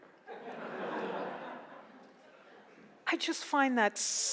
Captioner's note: laughs